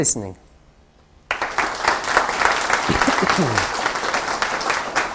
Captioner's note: applause